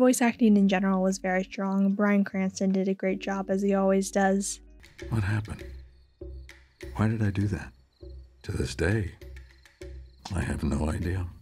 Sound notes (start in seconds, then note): none